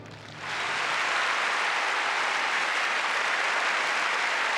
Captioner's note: loud applause